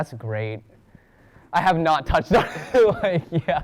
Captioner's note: laughs and gasps for air